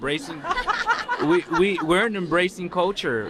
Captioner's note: laughter